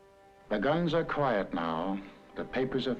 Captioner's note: voiceover